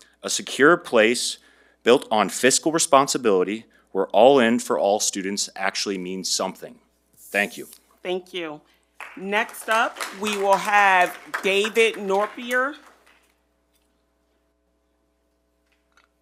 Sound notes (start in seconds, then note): 8.9 attendees clap